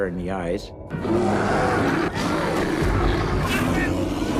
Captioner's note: bear growling; voiceover